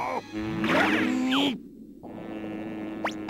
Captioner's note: yells loudly; growls